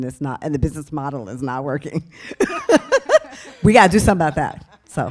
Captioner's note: laughs